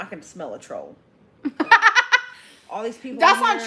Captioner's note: laughing